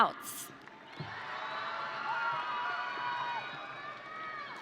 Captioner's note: audience cheering